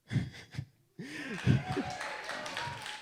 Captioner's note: chuckles; audience applauds